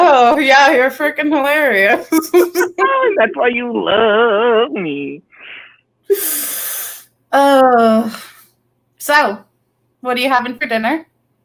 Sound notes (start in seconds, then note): 1.6 laughs; 6.1 heavily sighs